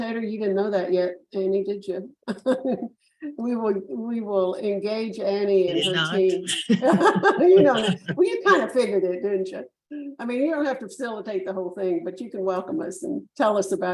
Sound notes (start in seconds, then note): 2.3 chuckles; 6.4 faintly speaking